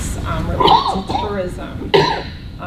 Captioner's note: coughing